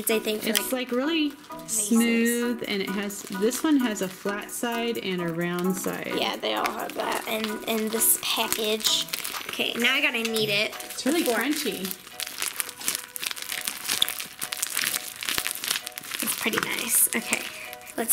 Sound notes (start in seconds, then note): 12.4 crunching